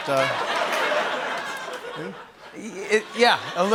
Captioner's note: laughter